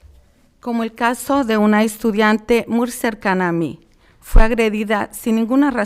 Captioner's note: speaking in foreign language